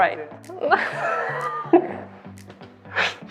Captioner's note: laughs